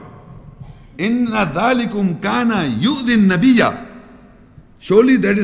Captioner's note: Arabic